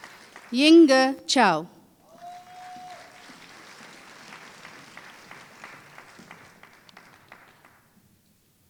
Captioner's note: applause